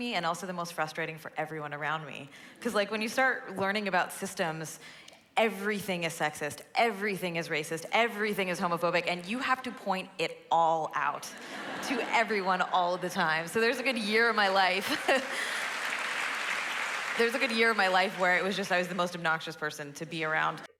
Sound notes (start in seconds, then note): 14.8 laughter; 14.8 applause